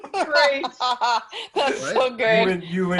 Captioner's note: laughs